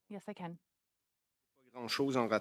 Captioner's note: speaking French